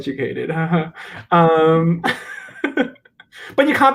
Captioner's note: laughs